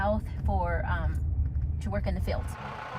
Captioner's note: engine purring